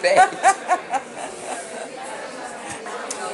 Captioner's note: laughs